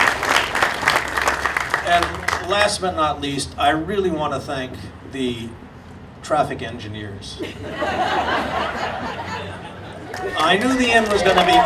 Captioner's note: audience laughing